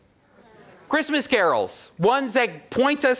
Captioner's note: audience murmurs response